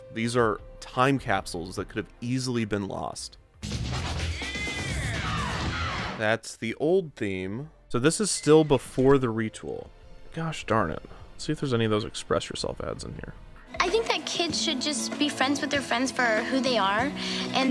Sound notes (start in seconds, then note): 3.6 lively upbeat music; 4.4 vocalist yelling